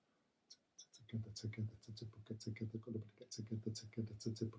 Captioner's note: beatboxing